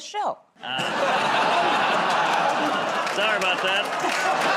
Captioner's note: laughter